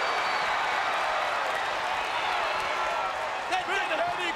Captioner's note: crowd cheers